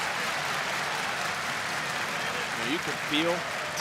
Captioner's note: crowd clapping